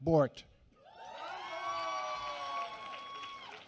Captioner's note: applause